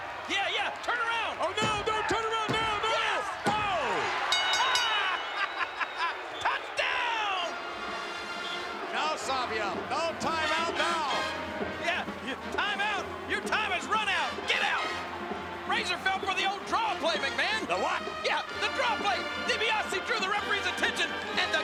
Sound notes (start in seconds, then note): 3.3 bell ringing; 5.0 Jerry chuckling; 11.4 upbeat music